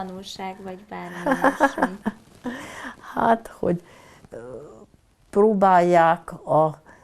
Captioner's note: laughing